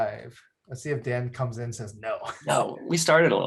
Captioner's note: chuckles